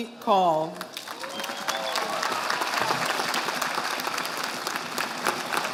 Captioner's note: audience applauding